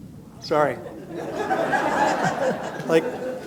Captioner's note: laughter